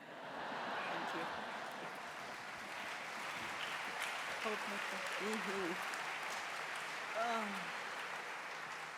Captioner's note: applause